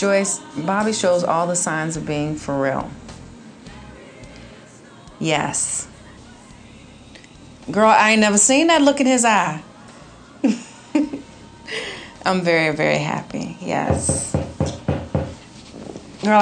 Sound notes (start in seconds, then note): 10.4 laughing; 13.8 knocking